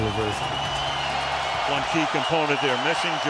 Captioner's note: cheering